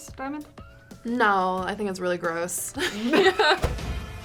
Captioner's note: laughs; tense music